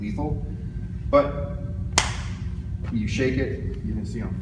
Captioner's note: smack